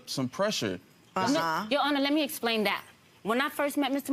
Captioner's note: judge murmuring in agreement